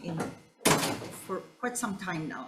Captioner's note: door bangs